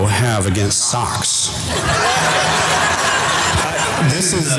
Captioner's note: audience laughter